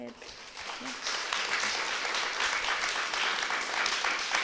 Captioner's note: applause